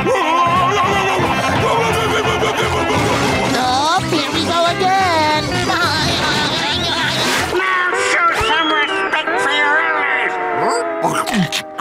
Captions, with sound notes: No! No! No! No! No! No! No! No! Oh, here we go again! [laughing] Now show some respect for your elders!